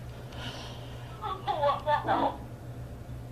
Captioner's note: laugh